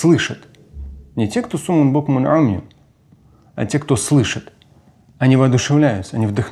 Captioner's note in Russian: говорит на арабском